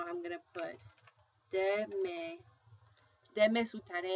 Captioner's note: speaking spanish